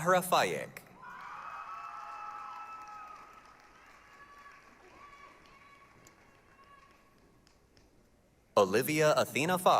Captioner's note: applause, cheering